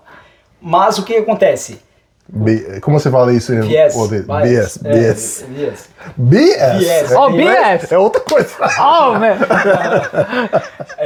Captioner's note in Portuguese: risadas